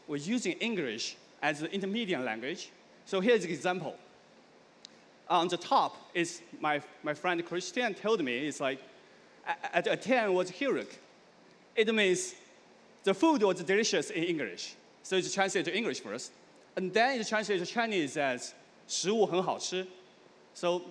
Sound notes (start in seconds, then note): 9.5 speaking dutch; 19.3 speaking chinese